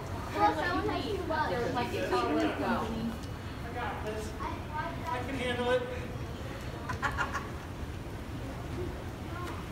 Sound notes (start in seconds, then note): 2.0 family chattering; 6.9 woman laughs